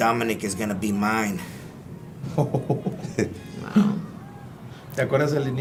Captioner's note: laugh